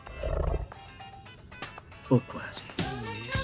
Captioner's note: spit